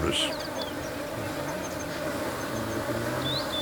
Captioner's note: buzzing